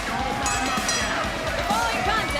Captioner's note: bell